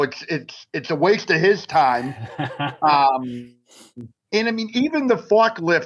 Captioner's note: laughs